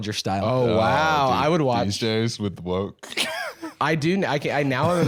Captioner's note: laughs